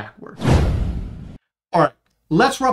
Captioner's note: air whooshing